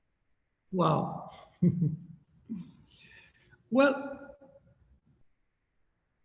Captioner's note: chuckles